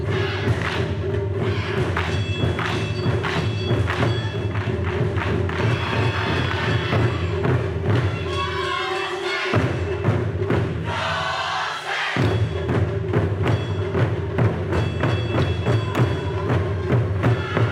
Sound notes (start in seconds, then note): 7.3 upbeat Taiko drums music continues; 10.8 instrumentalists shouting